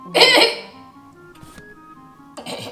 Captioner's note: groans